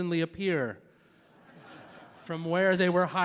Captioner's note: audience laughing